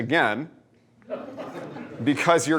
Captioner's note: laughter